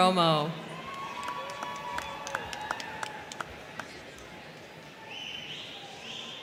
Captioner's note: crowd cheering; crowd clapping